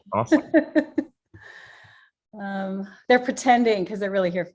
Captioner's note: laughs